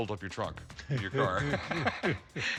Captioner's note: laughter